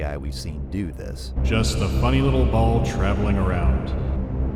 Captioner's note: echoing